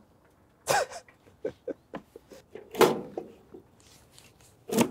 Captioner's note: laughing